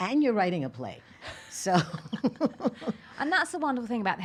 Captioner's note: laughing